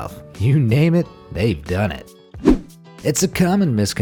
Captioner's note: air whooshing